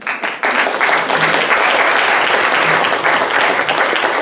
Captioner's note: audience applauding